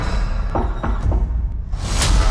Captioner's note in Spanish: llaman a la puerta; continúa música siniestra